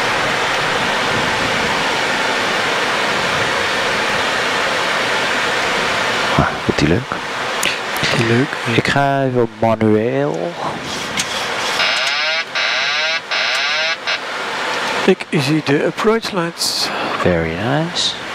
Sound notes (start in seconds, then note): 11.8 autopilot disconnect